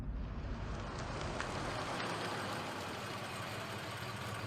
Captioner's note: tires crunching